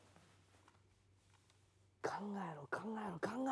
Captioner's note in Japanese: none